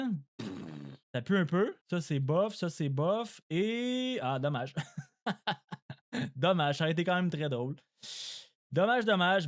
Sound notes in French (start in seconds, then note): 4.7 rires